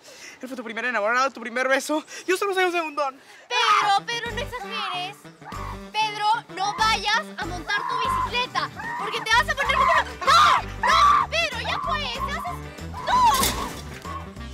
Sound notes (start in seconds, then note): 5.5 screams; 7.7 screams; 10.8 screams; 12.9 screams